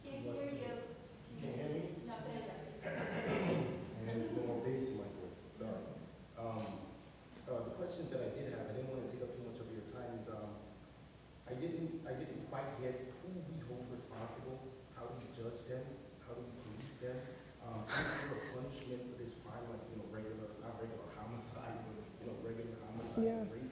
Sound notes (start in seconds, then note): 2.6 speaks quietly without mic; 2.8 clears throat; 19.7 speaks quietly without mic